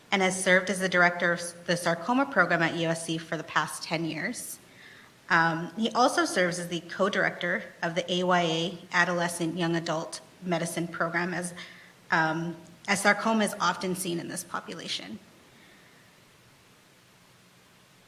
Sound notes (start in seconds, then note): none